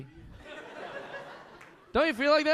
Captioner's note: audience laughing